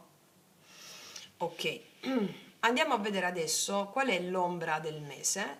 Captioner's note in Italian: schiarire la voce